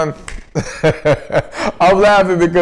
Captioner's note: laughs